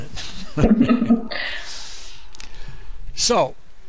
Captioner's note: both laugh